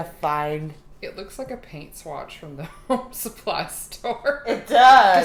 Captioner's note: laughing